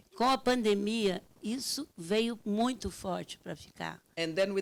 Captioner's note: speaking Portuguese